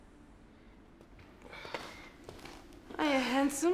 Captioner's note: Lex groans